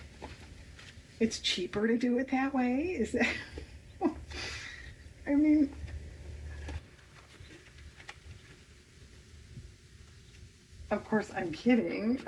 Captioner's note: laughs